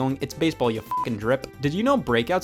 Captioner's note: beep